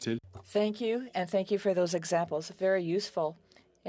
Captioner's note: speaking French